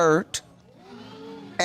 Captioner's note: audience exclaims